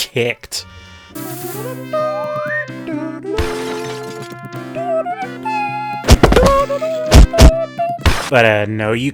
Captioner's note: Slapstick Sound Effects with Bad Acappella of Indiana Jones Theme